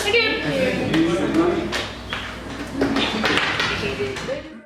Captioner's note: audience applauding